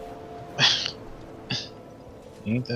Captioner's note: laughs